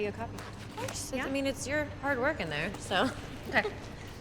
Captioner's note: laughs